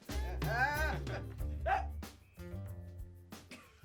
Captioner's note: laughs